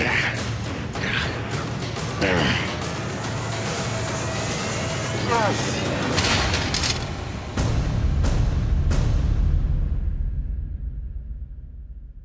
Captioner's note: breathing hard